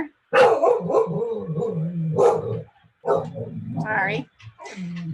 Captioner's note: dog barking